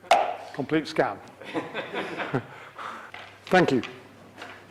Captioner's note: audience laugh